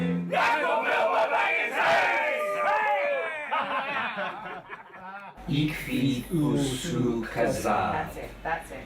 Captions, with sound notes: [ALL LAUGHING] [ALL SPEAKING IN DWARVISH] That's it. That's it.